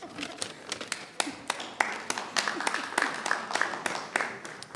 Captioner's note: chuckling and clapping